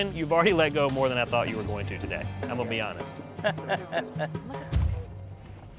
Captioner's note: laugh